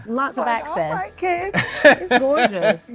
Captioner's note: laughs